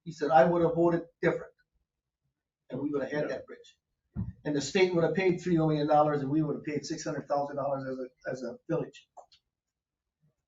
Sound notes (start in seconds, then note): none